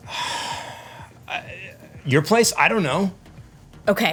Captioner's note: sighs